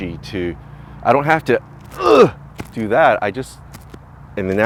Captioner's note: grunt & press with force